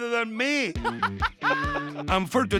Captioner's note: laughing